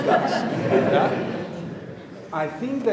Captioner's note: audience laughing